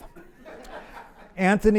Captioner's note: audience laughs